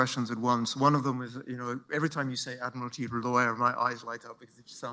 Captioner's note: non-english speech